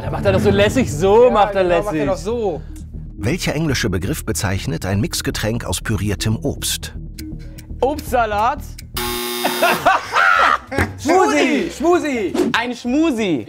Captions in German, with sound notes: Macht er das so lässig, so macht er lässig. Obstsalat? (Errorton, Lachen) Schmusi, Schmusi. - Ein Schmusi.